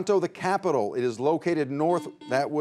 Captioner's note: buzzer beeping